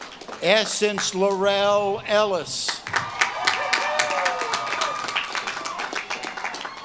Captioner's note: audience claps and cheers